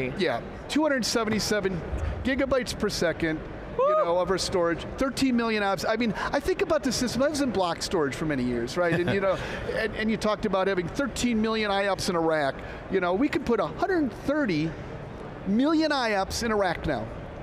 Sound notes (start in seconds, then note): 8.8 laughs